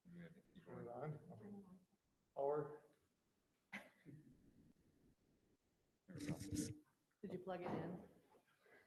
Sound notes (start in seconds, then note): 5.9 giggles